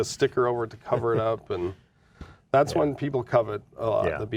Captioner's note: laughing